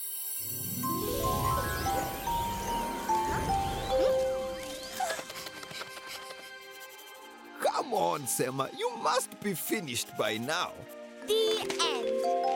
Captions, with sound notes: (soft chiming music) Huh? Hmm? (gasps) (panting) - Come on, Sema. You must be finished by now. - The end!